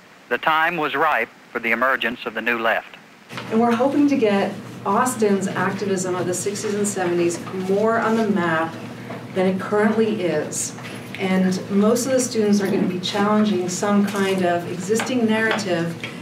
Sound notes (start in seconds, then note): none